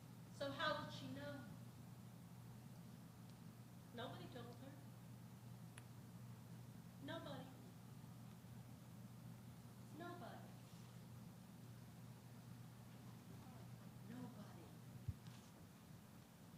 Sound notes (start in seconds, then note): none